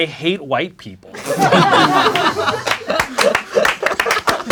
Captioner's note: crowd laughing; crowd applauding